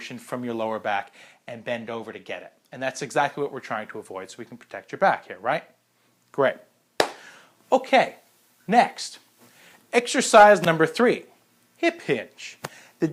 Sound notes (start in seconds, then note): 7.0 clapping